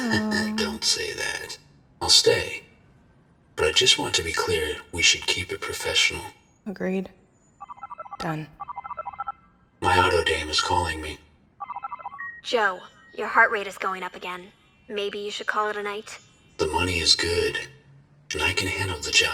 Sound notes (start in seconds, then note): 7.4 comm link chirps